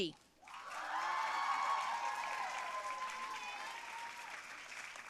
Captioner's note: audience cheering and applauding